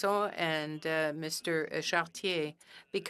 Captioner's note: speaking French